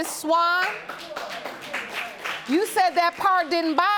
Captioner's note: audience applauding